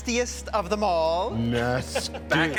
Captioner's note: chuckling